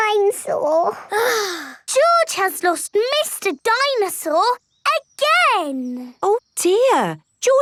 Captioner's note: sighs